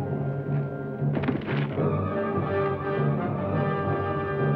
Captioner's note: distant thuds